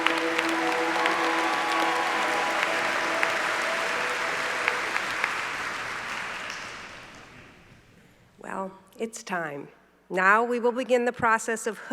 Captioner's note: applause